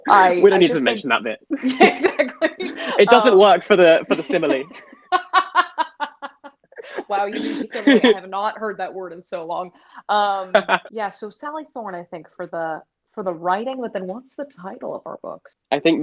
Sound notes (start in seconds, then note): 5.2 both Laughing